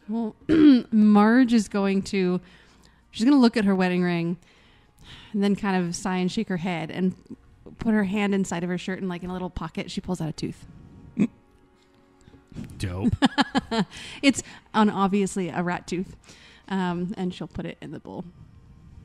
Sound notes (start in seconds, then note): 12.8 chuckles; 13.0 laughs